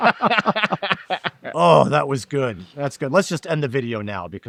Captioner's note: laughing